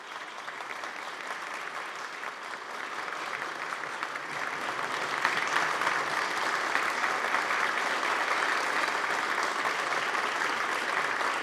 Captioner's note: applause